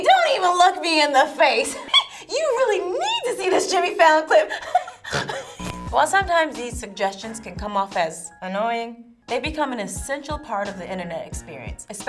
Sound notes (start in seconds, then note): 4.4 laughs; 6.3 relaxed music